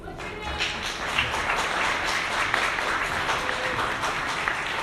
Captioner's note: audience applauding